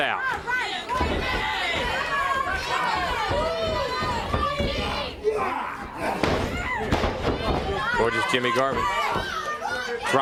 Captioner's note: crowd chatter